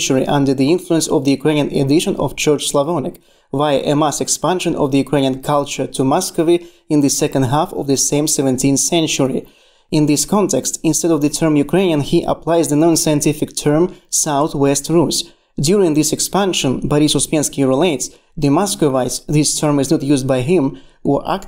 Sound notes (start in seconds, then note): 5.1 Ukrainian